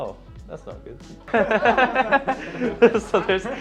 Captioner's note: laughing